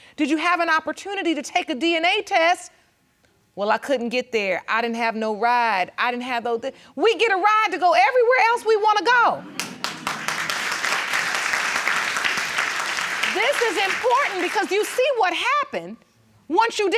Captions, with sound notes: did you have an opportunity to take a DNA test? Well, I couldn't get there. I didn't have no ride. I didn't have... We get a ride to go everywhere else we wanna go. (AUDIENCE CLAPPING) This is important because you see what happened